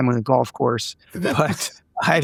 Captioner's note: laughing